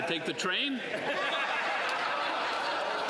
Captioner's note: some Applause